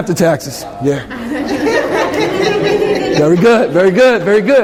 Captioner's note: laughter